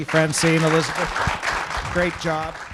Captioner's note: audience applauding